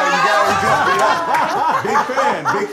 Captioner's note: laughter